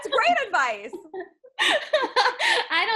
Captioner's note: laughing